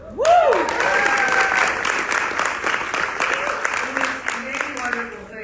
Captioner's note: audience applauding